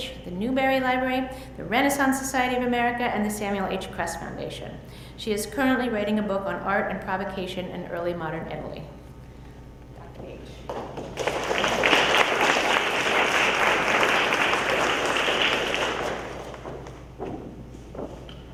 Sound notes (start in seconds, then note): 10.9 audience applauds